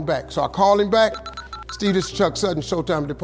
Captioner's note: none